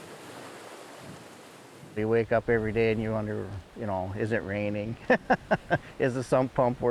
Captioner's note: laughs